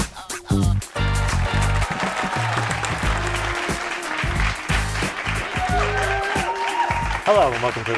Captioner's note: cheering